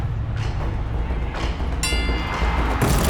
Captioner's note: dinging